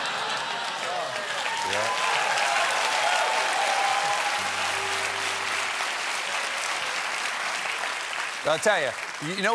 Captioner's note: laughter; cheers and applause